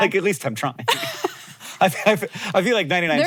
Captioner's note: both laugh